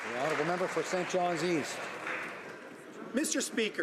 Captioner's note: some Applause